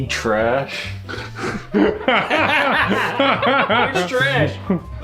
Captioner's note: dad laughing